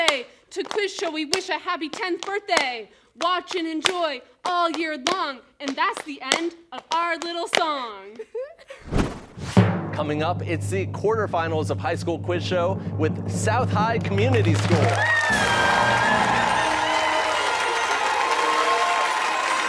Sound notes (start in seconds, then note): 8.1 giggling; 15.2 fanfare